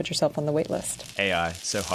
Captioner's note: sizzling